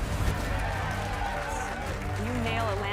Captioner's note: cheers